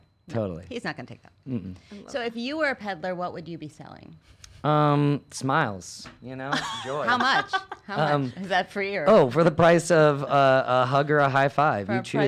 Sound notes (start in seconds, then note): 6.5 laughs